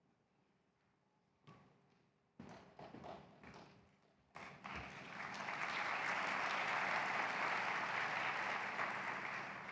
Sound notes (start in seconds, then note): 4.3 applause